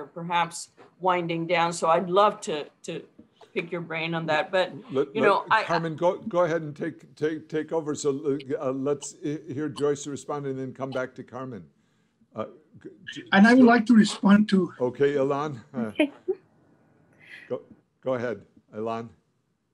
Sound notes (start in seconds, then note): 16.2 laugh